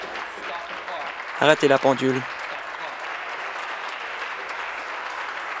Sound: applause

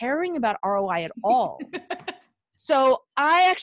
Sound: laughing

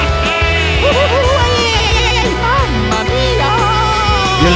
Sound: crying

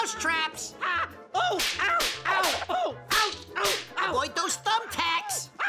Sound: Elmer screaming; traps snapping; Elmer screaming

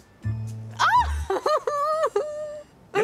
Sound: giggles

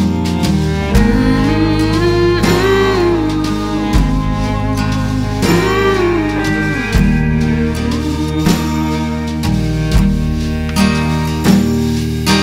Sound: humming "Mmm Mhmm"

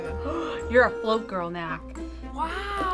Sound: gasps

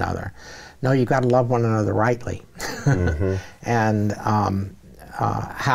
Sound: chuckles

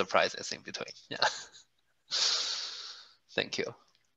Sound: laugh

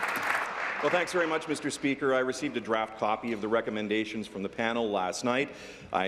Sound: applause

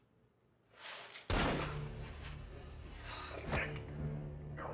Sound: gun firing

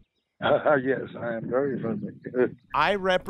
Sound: chuckles

